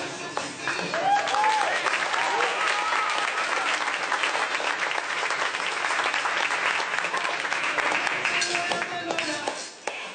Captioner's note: wild applause